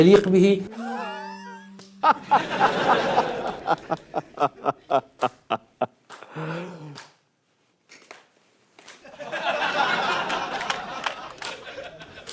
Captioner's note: mockingly laughing and clapping